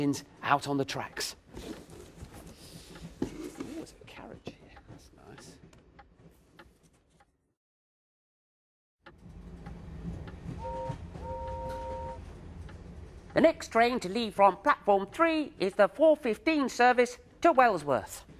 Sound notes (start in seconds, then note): 10.5 engine whistle